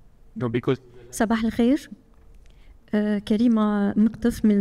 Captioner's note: speaking foreign language